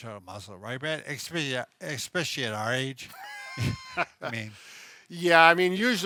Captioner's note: chuckles